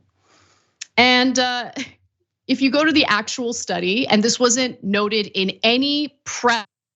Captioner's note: laugh